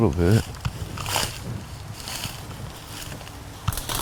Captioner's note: leaves crunch